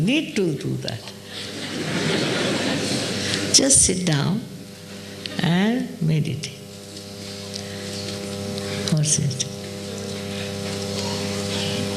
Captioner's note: laughter